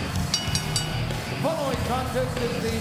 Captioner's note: ring bell clanging